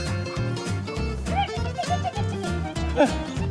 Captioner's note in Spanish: imita cacareo